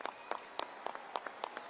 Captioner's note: applause